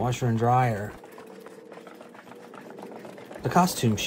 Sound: nat sounds, walking through the facilities

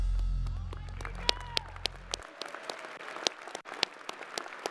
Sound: crowd cheering

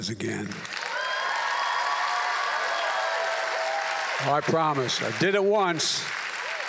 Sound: applause

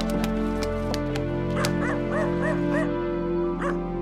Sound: dog barking

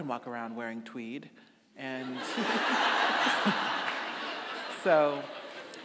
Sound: audience laughing

